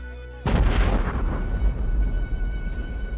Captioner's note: explosion